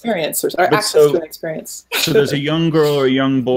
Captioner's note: laughing